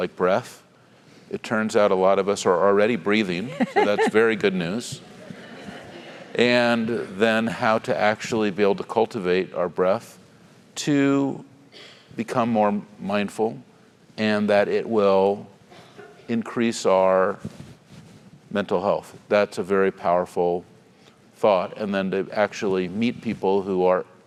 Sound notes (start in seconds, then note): 3.4 laugh